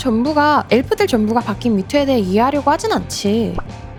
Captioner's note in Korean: none